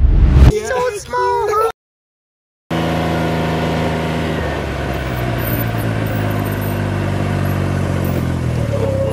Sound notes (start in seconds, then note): 2.7 motorcycle engine roaring